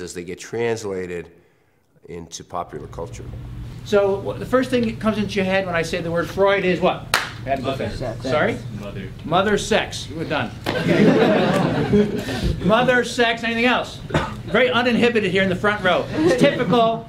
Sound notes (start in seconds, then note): 10.7 laugh